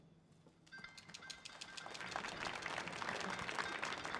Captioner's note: audience applauding